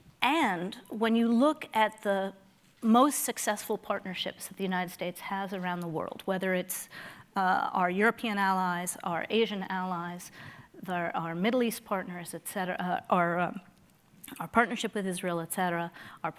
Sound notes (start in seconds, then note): none